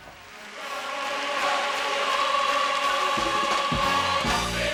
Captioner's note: audience applauding